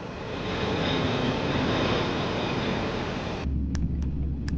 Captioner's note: plane soaring; computer keys clicking